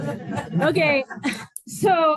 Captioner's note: laughter